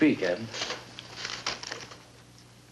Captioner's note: papers rustle